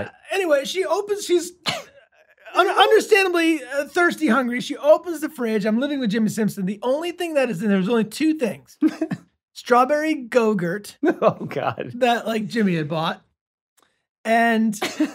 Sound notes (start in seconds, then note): 8.8 Glenn laughs